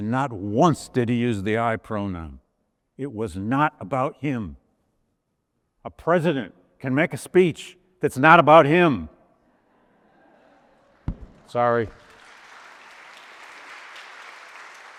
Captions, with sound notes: and not once did he use the I pronoun. It was not about him. A president can make a speech that's not about him. (audience laughs) Sorry. (audience applauds)